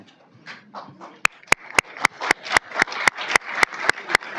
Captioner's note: applause